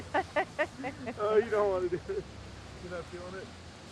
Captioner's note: both laugh